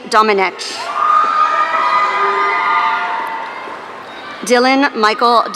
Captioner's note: audience cheering